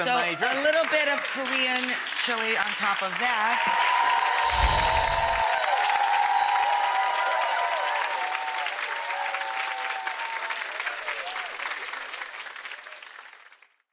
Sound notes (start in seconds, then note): 4.0 crowd cheering and clapping